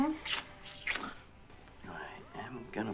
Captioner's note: kisses